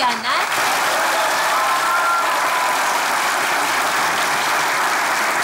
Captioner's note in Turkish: Alkış sesleri